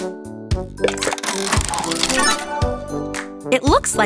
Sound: turning sound

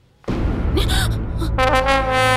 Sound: gasps

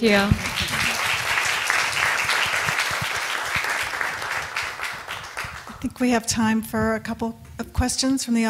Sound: clapping

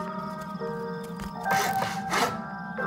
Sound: sawing

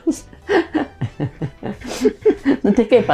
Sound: both laughing in Lithuanian

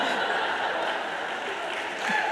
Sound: laughing; applause

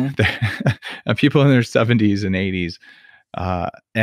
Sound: laughs

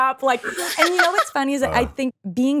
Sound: Esther laughs

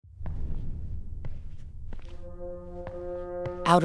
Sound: footsteps

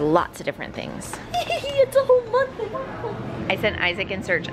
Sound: laughs

